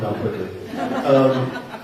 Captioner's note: laughter